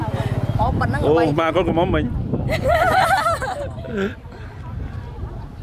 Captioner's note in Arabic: تضحك